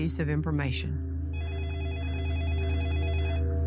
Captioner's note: phone ringing